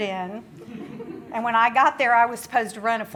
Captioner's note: audience laughs